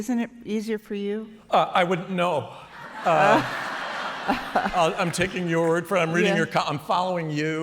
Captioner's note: laughter